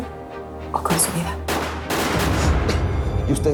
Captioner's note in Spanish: Disparos